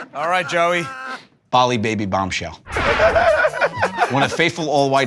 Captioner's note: laughter